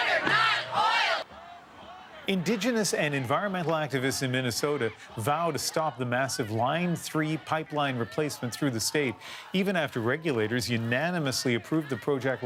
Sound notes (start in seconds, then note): 1.4 chanting